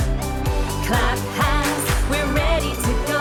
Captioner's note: clap, clap